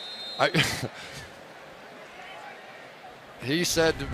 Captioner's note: whistle